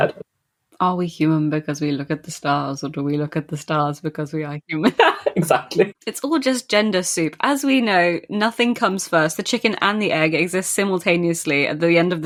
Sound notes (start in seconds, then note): 4.7 laughs